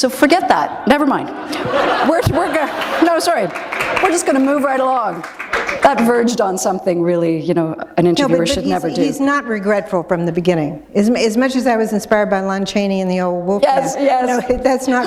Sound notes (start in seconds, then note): 1.2 laughter